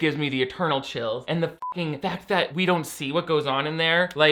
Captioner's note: beeps